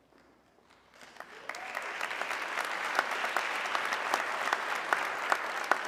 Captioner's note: audience clapping